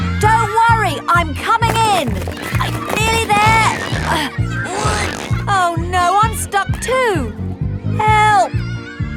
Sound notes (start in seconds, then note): 4.6 grunting